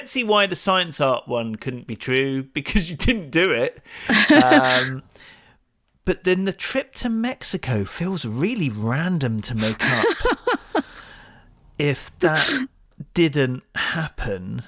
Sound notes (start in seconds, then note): 4.0 laughs; 9.5 laughs